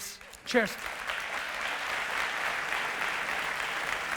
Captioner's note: audience applause